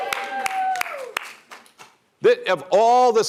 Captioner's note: applause